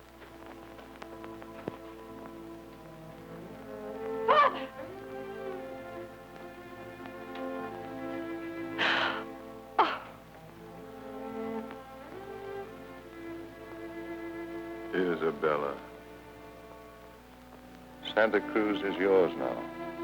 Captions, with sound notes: (melancholic music) - Father! (Isabella gasping) Oh. - Isabella. Santa Cruz is yours now.